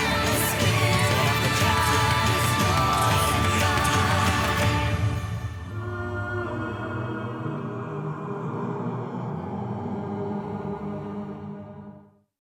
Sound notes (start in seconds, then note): 6.0 slow soft music; 6.0 wind blowing